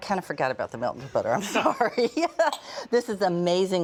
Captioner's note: laughing